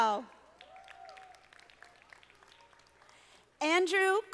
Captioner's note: audience applauding